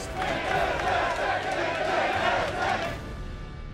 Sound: audience jeering; dramatic music

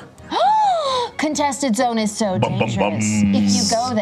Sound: gasps

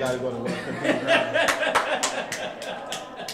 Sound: laughing

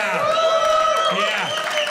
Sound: audience cheering

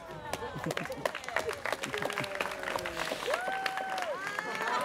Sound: students cheering

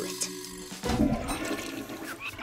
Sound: toilet flushing

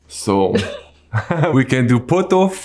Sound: both laugh

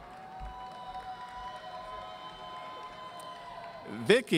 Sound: audience cheering

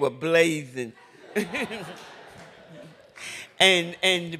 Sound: laughter

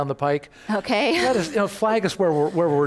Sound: laughs

